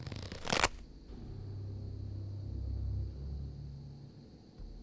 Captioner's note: glove slapping